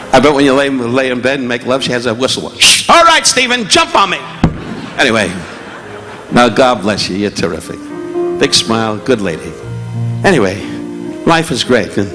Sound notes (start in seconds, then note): 2.3 Don imitating whistle; 4.3 mic thudding; 4.6 audience laughing